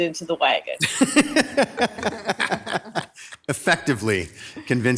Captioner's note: group laughs